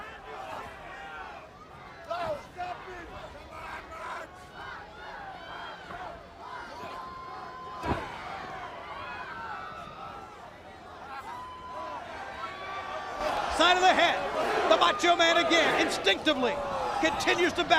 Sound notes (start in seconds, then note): 0.2 crowd chatter; 4.4 crowd cheering